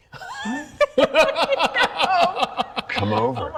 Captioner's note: all laugh